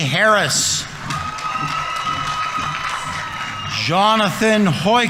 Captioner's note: audience members cheering; audience applauding